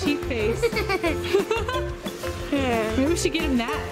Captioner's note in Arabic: يضحكون